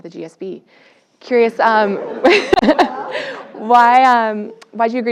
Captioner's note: laugh